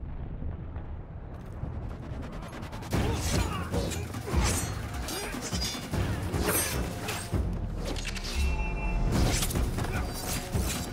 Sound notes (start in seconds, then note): 2.9 grunting